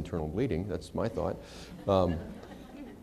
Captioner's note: laughter